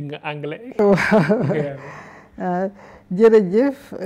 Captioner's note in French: rires